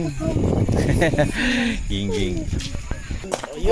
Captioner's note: laughs